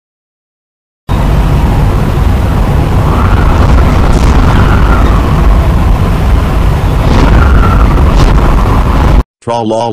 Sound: wind blowing

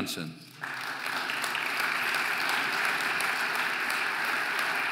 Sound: audience applauding

